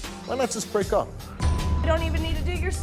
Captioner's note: beep